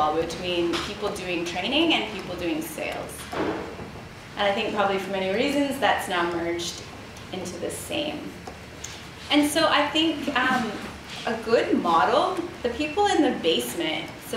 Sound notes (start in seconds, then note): none